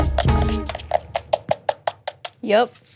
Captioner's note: hollow tapping